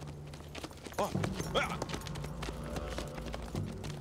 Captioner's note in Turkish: At nalı sesi